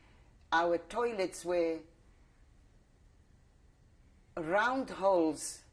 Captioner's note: pauses for 3 seconds